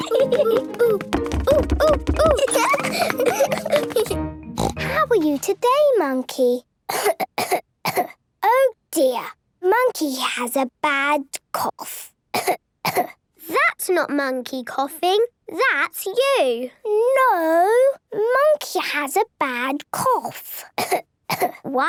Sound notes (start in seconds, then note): 0.0 laughs; 4.6 snort; 6.9 she pretends to cough; 12.3 pretending to cough; 21.3 pretending to cough